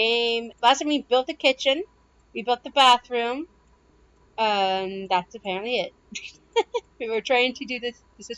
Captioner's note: laughter